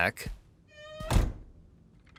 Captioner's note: door creaks